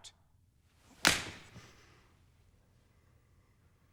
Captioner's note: smack